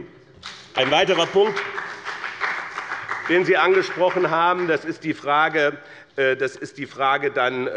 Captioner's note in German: Beifall bei dem BÜNDNIS 90/DIE GRÜNEN und der CDU